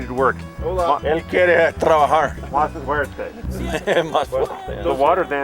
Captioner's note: Jim speaking Spanish